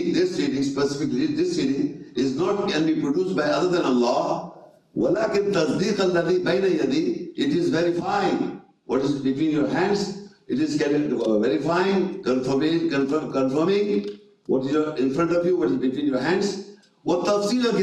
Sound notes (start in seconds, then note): 1.3 reading Arabic; 6.9 reading Arabic